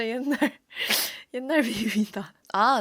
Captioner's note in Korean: 훌쩍